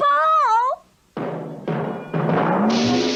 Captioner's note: bouncing